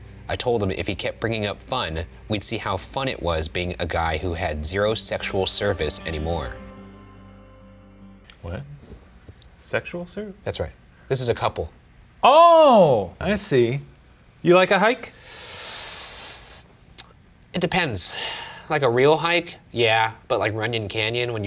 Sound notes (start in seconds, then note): 15.2 sucking air through teeth